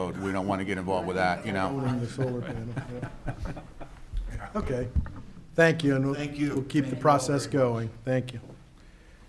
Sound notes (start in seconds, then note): 1.1 chuckling